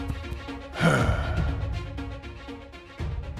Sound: discontented sigh

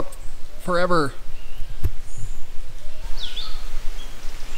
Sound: birds tweeting

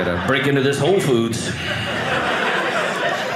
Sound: audience laughing

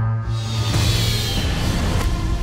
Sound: mechanical whoosh

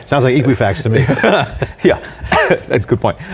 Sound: laughter

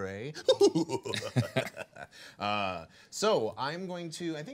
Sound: manically laughing

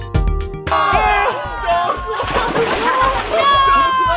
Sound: splashing

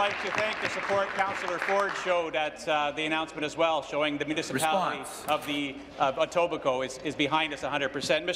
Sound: applause

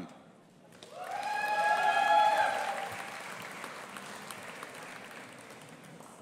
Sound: audience applauding and cheering

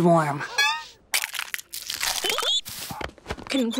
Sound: cracking, chirping

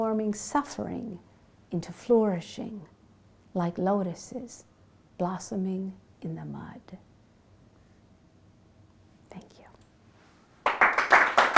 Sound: clapping from audience

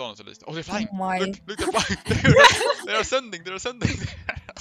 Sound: haha

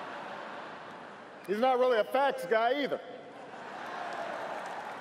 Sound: applause

